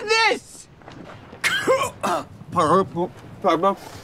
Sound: coughing

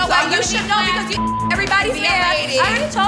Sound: beep

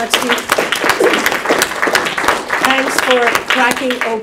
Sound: audience applauding

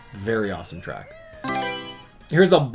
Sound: Mario Selection Sound

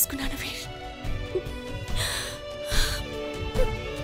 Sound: gasps

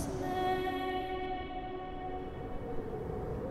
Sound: wind blowing

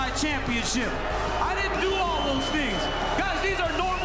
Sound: crowd boos

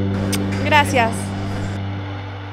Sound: muacks

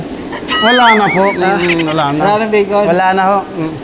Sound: laugh

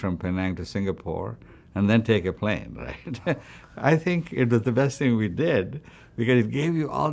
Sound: laughs

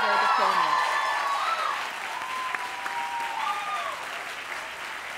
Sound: cheers, applause

